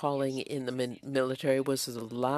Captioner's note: speaking french